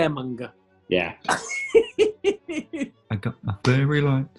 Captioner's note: giggling